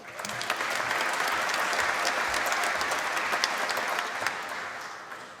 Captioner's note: applause